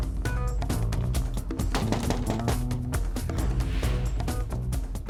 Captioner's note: knocks on door